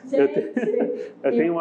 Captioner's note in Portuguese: risos